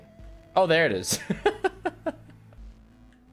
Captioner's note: laughs